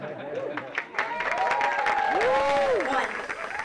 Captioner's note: audience laughing; audience clapping; audience cheering